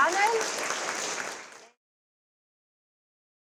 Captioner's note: applause